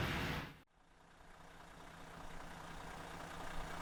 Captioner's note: vehicle engine roaring